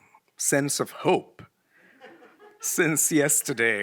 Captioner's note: attendees laughs